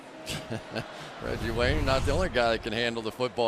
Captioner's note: laughs